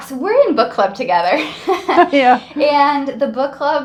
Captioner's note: laughing